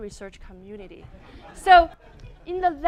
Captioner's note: audience laughing